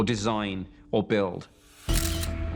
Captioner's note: camera shutter